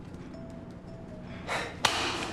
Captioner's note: sigh